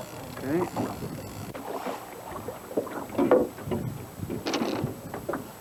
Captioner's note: water sounds